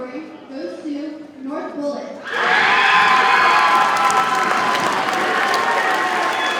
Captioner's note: audience cheers and applauds